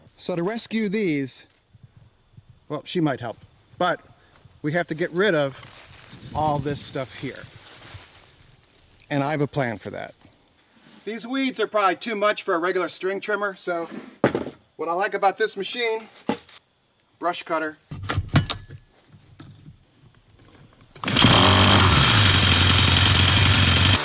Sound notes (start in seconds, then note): 18.2 metal clanking; 21.0 motor revving